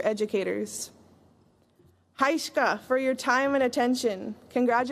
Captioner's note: non-english